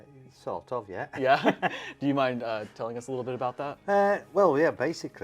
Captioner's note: laughs